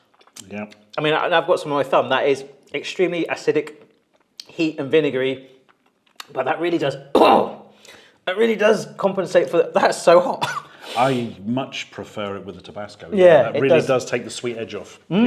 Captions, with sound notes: And I've got some of my thumb, that is extremely acidic heat and vinegary, but that really does (coughs), that really does compensate, that's so hot. - I much prefer it with the Tabasco. It really does take the sweet edge off.